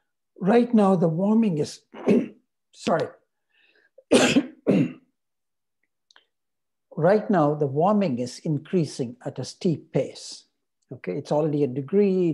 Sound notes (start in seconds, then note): 4.0 man coughs